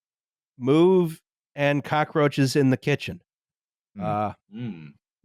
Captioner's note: hesitantly